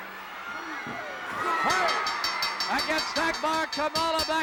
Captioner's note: bell ringing